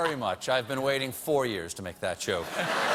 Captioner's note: laughter